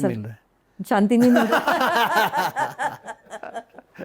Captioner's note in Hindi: हंसी